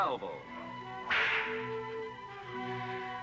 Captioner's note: cracking whip